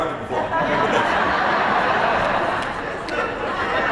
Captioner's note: laughter